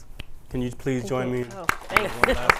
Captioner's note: applause